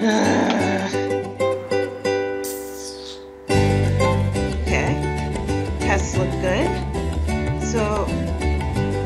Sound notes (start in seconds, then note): 0.0 groan of deep frustration and everlasting exhaustion; 2.4 teeth sucking of renewed vigor and determination